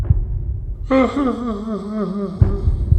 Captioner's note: moan